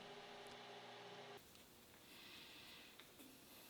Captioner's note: lathe whirring